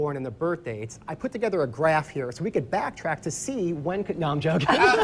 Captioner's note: laughing